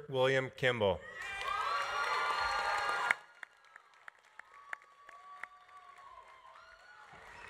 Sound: audience cheering; audience applauding

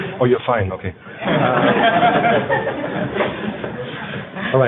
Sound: laughter

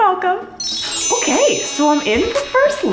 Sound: bells chiming

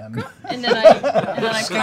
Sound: laughing

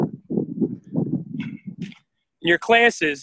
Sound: wind blowing

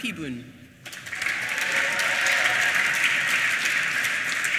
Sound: applause

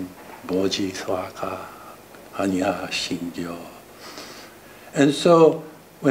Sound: speaking foreign language

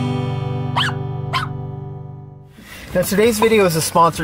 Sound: dog barking

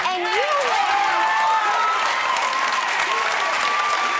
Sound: applause

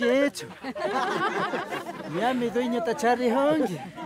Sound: all laughing

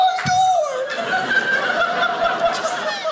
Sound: audience laughing

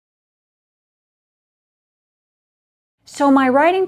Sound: pause

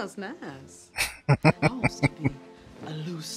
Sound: laughing

